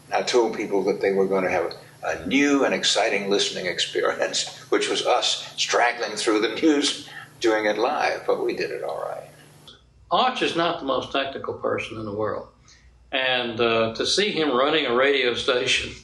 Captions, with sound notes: I told the people that they were going to have a new and exciting listening experience. [chuckles] Which was us straggling through the news doing it live. But, we did it alright. Arch is not the most technical person in the world. And, uh, to see him running a radio station